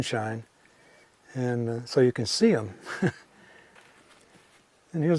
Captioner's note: chuckles